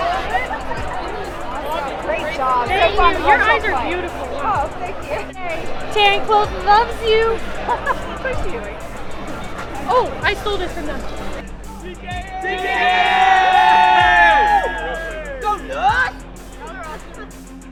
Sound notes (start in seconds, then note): 7.3 mother laughs; 11.8 group cheers